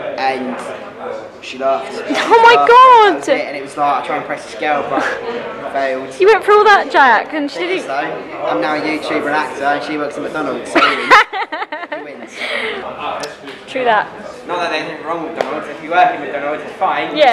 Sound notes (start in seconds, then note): 10.8 laughs